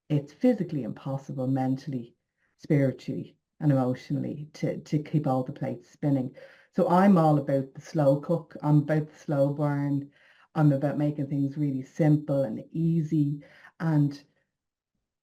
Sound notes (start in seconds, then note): none